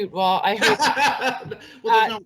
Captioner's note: laughing